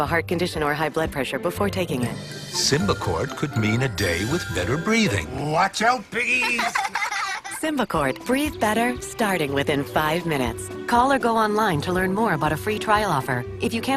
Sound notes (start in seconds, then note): 7.8 children giggle